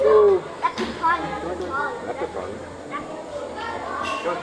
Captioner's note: foreign language